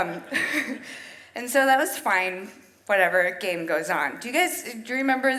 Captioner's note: chuckles